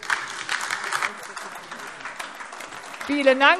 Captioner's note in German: Beifall AfD